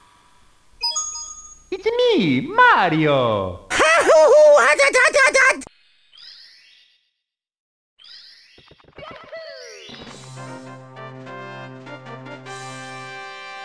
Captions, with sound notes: It's-a me, Mario! (screaming in anguish) (triumphant music)